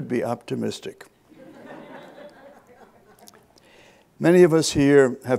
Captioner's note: audience laughs